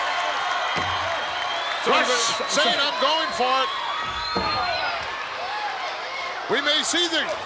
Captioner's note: applause